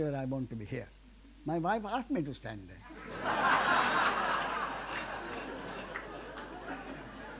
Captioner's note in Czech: smích